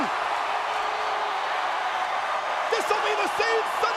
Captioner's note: audience cheering